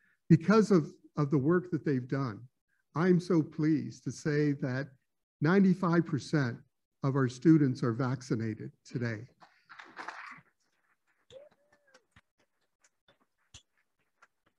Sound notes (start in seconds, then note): 9.7 applauding